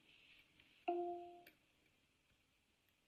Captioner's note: device chimes